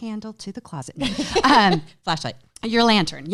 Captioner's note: chuckles